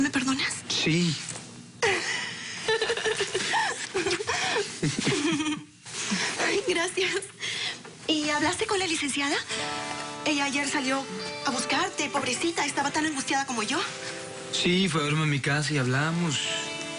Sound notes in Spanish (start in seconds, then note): 2.5 Risas